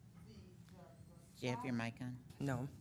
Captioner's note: speaking faintly